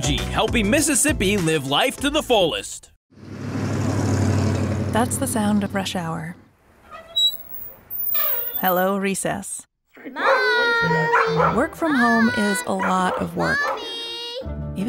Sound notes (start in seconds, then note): 3.1 engine rumbles; 6.8 squeak; 10.2 barking